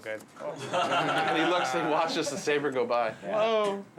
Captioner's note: laughing